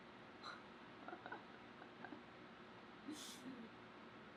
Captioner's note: laughs